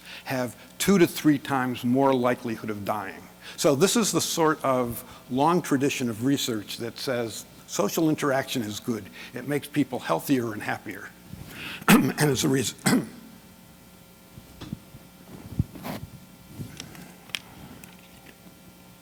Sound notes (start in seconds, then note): 12.8 clearing throat